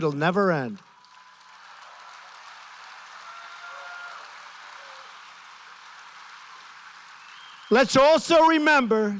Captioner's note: applause